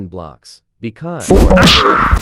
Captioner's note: Ian screams